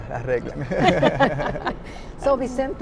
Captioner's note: laughing